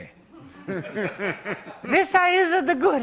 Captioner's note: laughter